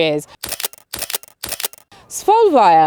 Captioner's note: camera clicking